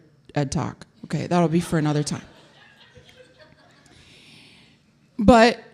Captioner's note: audience laughing